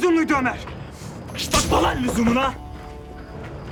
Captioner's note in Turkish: Tokat sesi